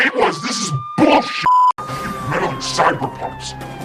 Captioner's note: beeping; sirens blaring